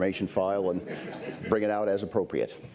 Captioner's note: laughter